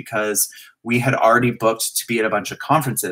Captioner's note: none